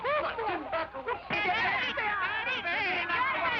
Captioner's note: shouting